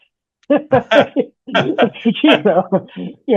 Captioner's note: laughing